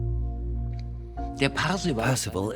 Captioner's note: in German; dubbed in English